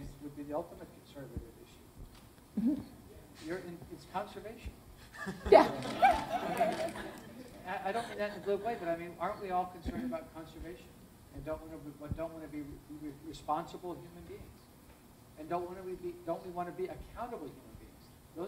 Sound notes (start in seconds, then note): 5.0 laughter